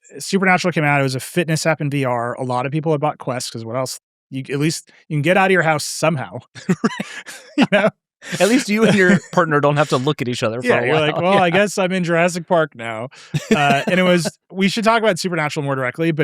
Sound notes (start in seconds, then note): 6.4 laughing